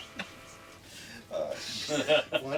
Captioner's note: laughter